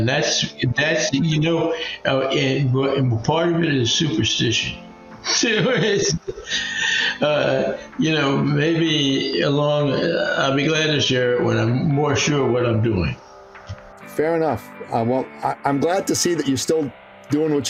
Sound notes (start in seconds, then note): 5.2 laughing